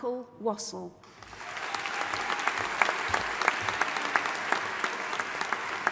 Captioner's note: audience applauding and cheering